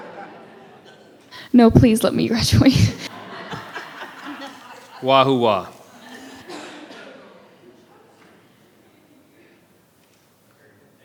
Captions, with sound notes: (all laughing) - No, please let me graduate. (all laughing) - Wahoo wa.